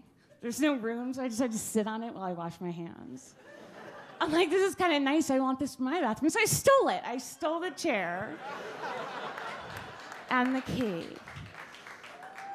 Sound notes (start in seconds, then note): 8.3 audience laugh